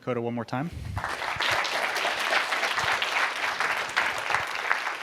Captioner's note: applause